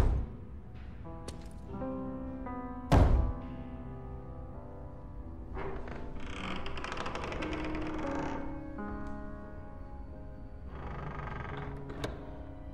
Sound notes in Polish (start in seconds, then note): 2.5 Stukanie; 5.3 Skrzypienie